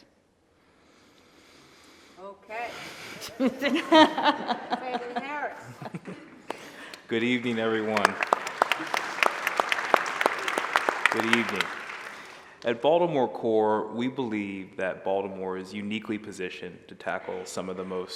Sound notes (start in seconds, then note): 3.2 laughter; 10.2 applause